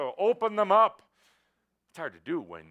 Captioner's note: speaking very loudly